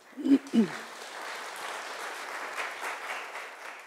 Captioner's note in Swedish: Applause